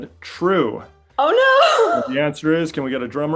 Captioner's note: laughing